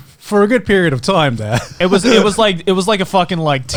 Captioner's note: laughs